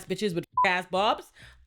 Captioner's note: beep